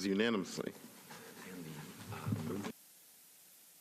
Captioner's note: chorus of ayes